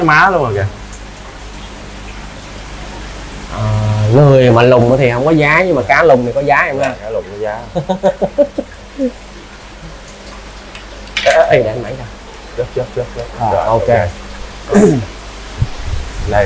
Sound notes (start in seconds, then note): 7.7 laugh